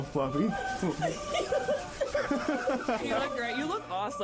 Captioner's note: laughing